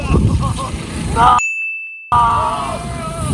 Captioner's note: ding; wooaoaoh